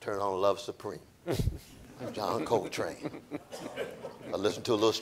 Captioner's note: audience laughing